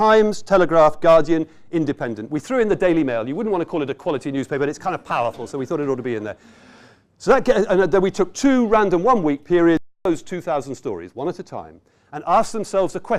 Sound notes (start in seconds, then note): 5.0 audience chuckles